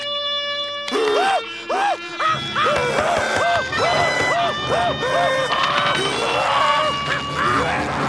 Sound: trumpet playing; grunting, growling

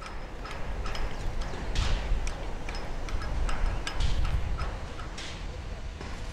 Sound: construction noise

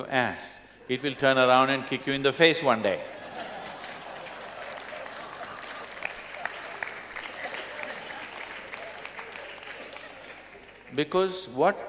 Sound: laughter; laughter/Applause

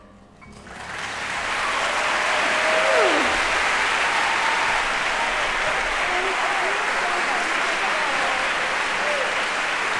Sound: applause

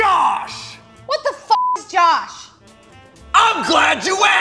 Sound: beep

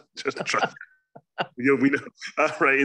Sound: laughs

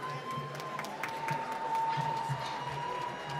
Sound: applause

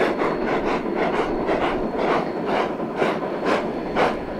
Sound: locomotives chugging in and out of sync

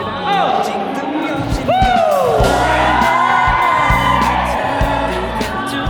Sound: cheers

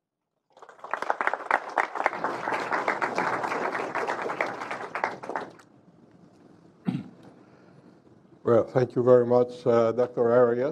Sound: applause

